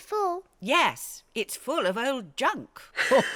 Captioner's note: grandpa and granny laugh